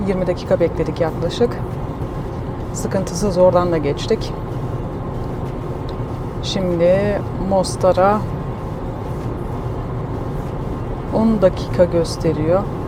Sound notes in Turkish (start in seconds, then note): none